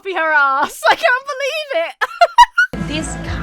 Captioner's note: laughs